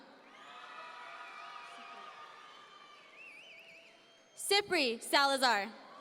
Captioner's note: audience members cheer